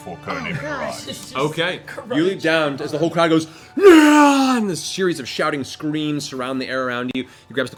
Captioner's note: cheering